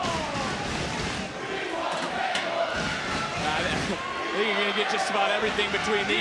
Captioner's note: crowd chants "we want tables"